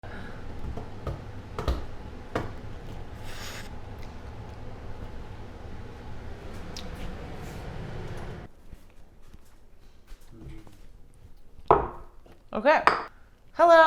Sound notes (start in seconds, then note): 0.0 wind blowing from fan